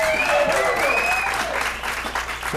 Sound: applause

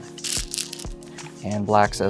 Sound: stones rattling

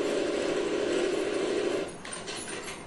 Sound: off-screen reload

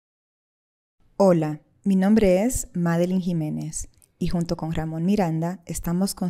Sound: speaks in foreign language

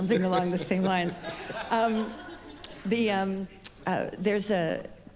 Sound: laughs

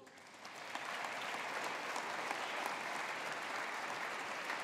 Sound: audience applauding

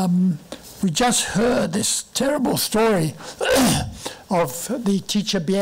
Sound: clearing throat

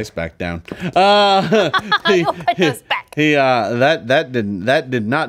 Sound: laughs

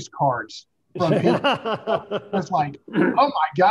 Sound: laughing

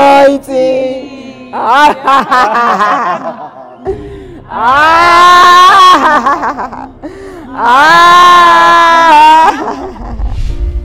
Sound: laughter

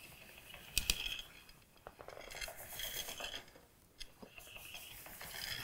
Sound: scraping and tapping

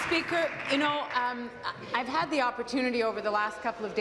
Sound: applause

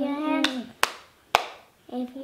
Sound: hands clapping

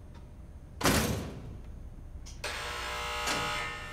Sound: door slams shut; buzz

